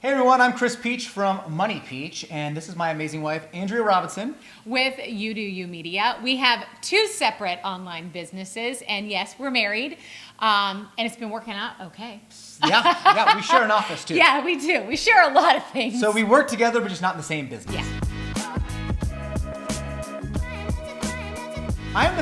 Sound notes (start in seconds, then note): 12.6 laughing; 17.6 upbeat hip-hop music